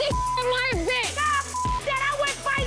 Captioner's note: beep